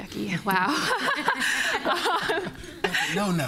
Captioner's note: laughter